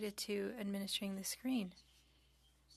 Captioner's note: speaking French